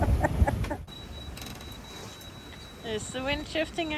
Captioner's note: laughter; alarm bibbing